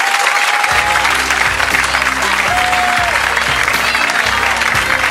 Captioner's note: audience clapping; jazz music